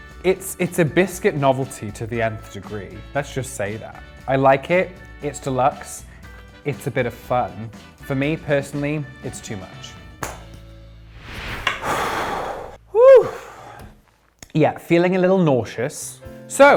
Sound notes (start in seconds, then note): 11.7 sighs